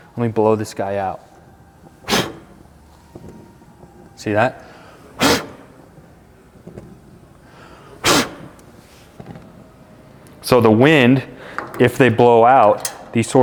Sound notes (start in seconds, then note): 1.9 puffs; 4.7 puffs; 7.4 puffs